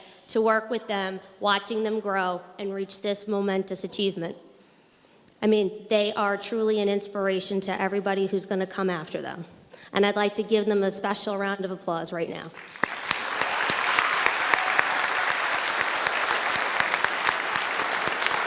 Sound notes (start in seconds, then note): 12.5 audience applauding and cheering